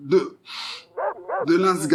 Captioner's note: sniffing